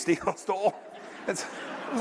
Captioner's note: laughter